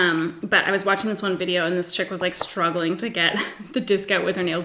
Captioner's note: giggles